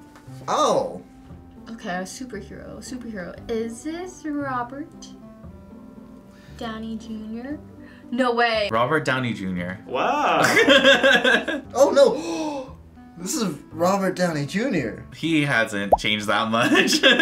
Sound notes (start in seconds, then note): 10.2 laughs; 12.2 gasps; 17.0 laughs